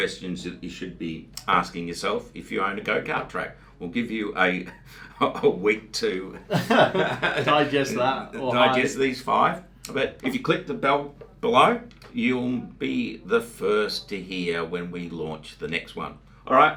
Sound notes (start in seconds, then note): 6.3 both men laugh